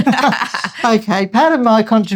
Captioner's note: laughing